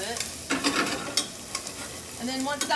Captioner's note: metal pot scrapes against burner